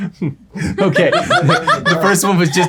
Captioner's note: laughing